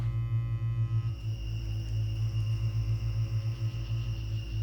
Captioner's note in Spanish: insectos chirriando